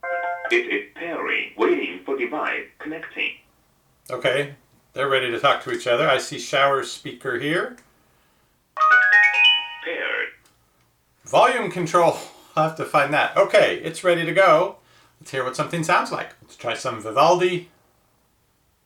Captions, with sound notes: (speaker chimes) - [Electronic Voice] It is pairing. Waiting for device, connecting. - Okay, they're ready to talk to each other. I see shower speaker here. (speaker chimes loudly) - [Electronic Voice] Paired. - Volume control, we'll have to find that. Okay, it's ready to go, let's hear what something sounds like. Let's try some Vivaldi.